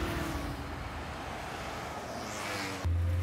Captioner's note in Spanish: ruido del tráfico